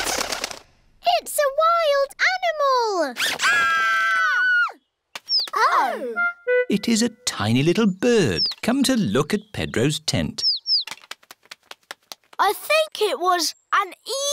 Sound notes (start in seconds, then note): 3.3 all screaming; 10.0 tweeting